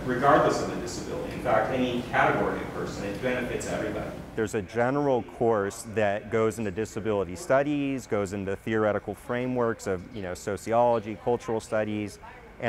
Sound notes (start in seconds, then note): 4.7 voiceover